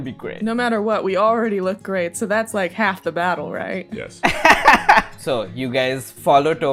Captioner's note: laughter